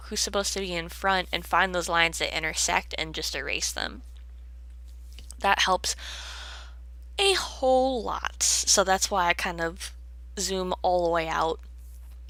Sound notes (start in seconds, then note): 6.0 deep inhale